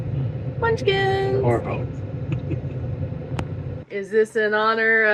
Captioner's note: laughing